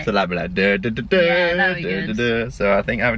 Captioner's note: Hums Indiana Jones tune